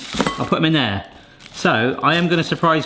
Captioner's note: bowl clangs